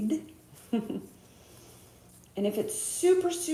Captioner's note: laughing